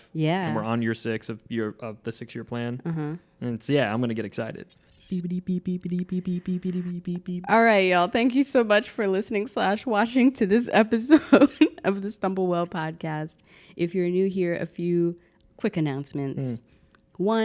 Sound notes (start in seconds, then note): 4.7 beeping